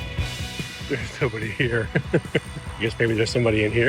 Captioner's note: chuckles